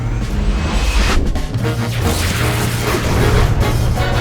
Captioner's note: robot whirs